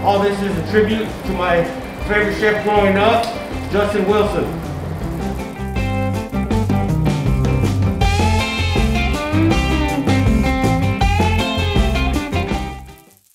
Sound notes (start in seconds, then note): 4.5 pan sizzles; 4.5 upbeat music